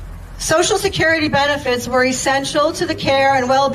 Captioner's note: none